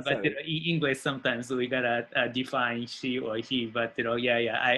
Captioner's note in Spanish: Español